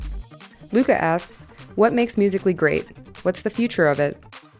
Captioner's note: voiceover